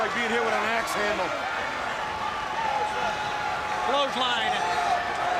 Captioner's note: crowd chatter